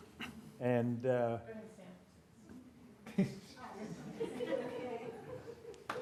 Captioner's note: applause